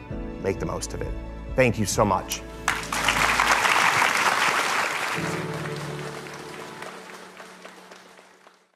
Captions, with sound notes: Make the most of it. Thank you so much. (Applause)